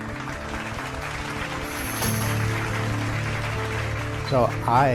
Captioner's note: audience applauding